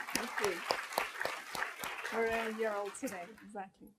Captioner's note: applause